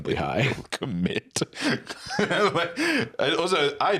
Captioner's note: laughing